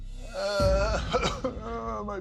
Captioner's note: fake cry